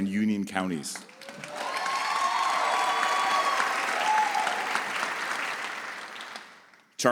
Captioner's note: audience applauds